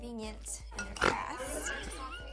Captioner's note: laughing